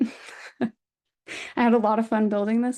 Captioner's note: chuckles